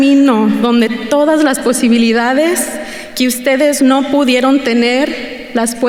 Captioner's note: continues speaking in Spanish